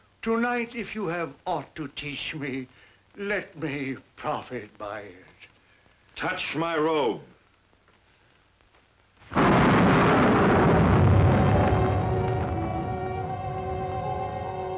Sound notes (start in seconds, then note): 9.3 eerie booming; 11.1 dramatic music